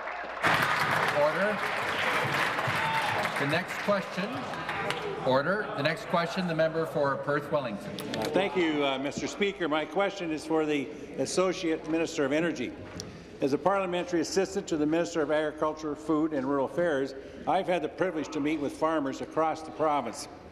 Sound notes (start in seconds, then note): 5.5 applause